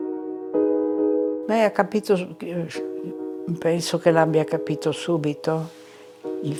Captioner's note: speaking in foreign language